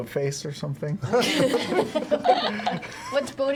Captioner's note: laughter